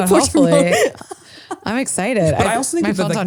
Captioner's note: laughs